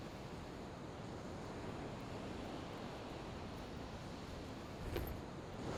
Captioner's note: waves continue crashing